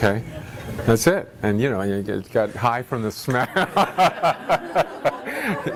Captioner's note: laughter